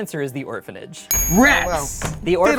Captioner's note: bell dings